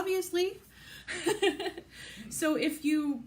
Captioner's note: laughs